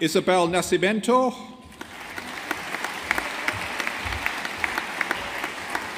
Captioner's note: audience applauding